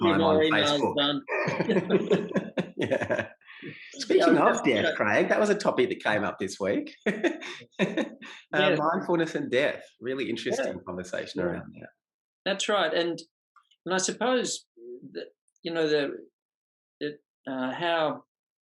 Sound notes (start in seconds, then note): 1.3 both laugh; 6.6 laughs